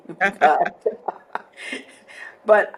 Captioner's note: both laughing